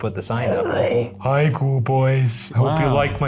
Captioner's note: exclaims